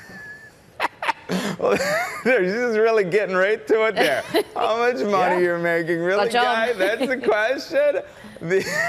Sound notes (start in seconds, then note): 6.6 laughter